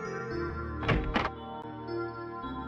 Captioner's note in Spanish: Puerta abriendose